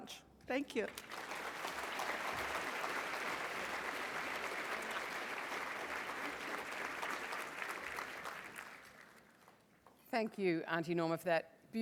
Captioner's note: applause